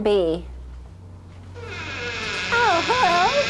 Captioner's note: door squeak